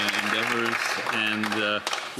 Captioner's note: applause